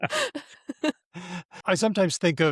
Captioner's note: laughter